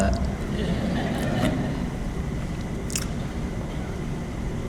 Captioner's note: audience laughs